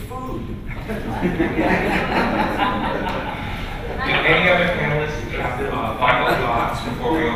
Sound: laughter

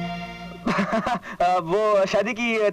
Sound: laughs

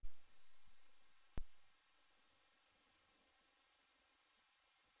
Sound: quiet TV static

